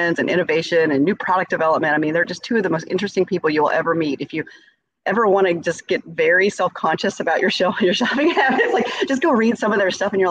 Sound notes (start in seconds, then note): 8.2 laughs